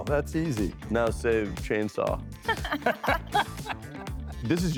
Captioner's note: laughter